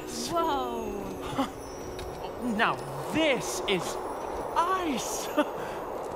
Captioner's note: chuckles